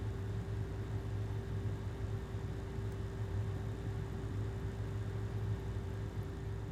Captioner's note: air conditioner humming continues